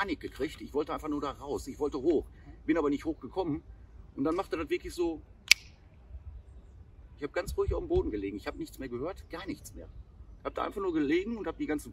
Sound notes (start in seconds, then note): 5.4 snap